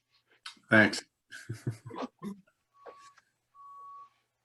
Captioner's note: laughs